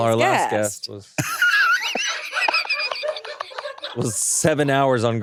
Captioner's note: everyone laughs